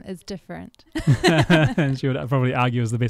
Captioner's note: laughing